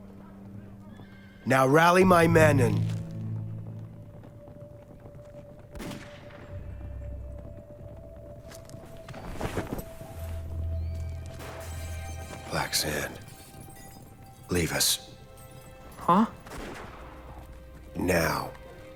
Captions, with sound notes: Now rally my men and... (sand crunching) (unsettling music) (gunfire pops in the distance) Black sand. Leave us. - Huh? - Now.